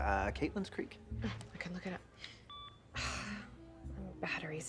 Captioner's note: sighs